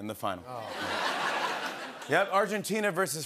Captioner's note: laughter